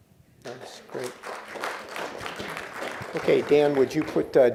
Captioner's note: applause